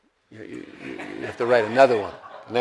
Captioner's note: audience laughs